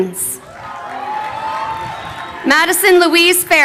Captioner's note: crowd cheering